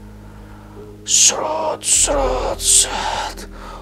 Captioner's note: incision sound